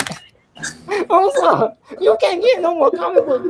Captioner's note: chuckles